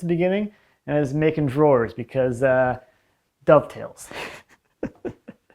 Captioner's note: chuckles